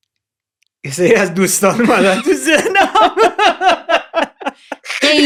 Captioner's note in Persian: خنده